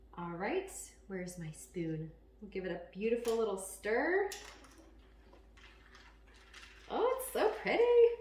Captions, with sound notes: All right, where is my spoon. We'll give it a beautiful little stir. (ice crackling) Oh, it's so pretty.